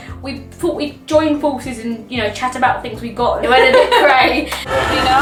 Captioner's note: both laugh